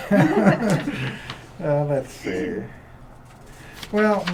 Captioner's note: laughter